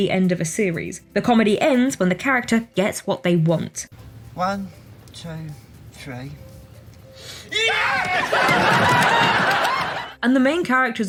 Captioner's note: screaming for joy